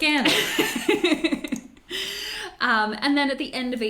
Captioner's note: laughs